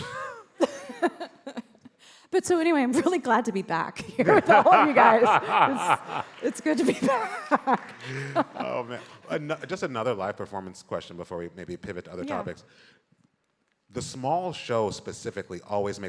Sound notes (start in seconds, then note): 0.5 both laughing; 4.2 laughs